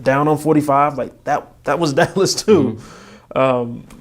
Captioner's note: laughing